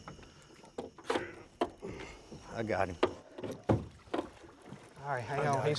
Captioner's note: grunting